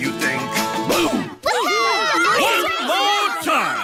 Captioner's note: kids cheering